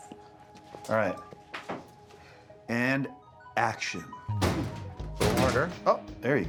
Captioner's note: cabinet rattling